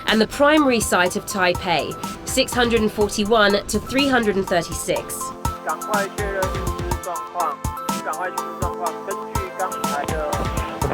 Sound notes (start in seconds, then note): 5.4 speaking in another language; 5.4 voiceover